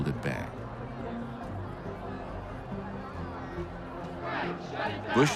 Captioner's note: people yelling and chanting in background